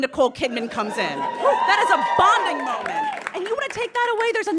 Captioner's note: audience cheers